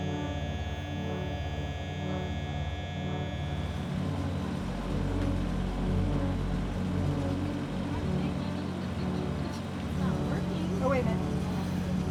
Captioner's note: natural sound of drone flying around - buzzing